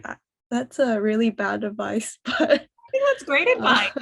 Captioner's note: laugh